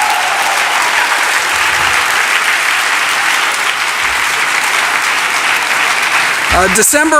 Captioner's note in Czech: Potlesk